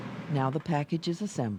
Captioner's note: voiceover